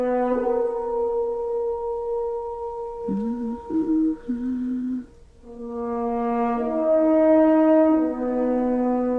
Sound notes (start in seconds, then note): 3.0 humming; 5.9 slow music